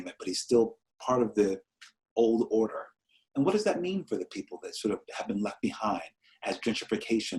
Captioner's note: none